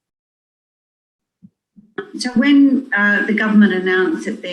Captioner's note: recording plays